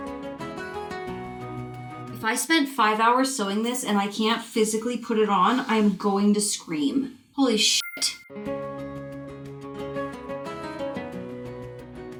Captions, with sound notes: If I spent five hours sewing this and I can't physically put it on, I'm going to scream. Holy (sparkles chime). (gentle music)